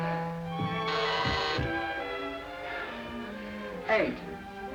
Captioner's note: bell buzzing